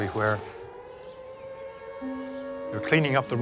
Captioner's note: siren wails